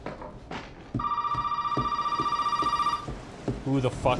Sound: phone ringing

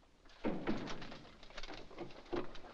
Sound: door closes

